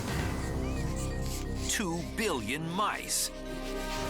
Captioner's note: mice squeaking